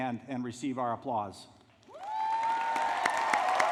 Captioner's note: applause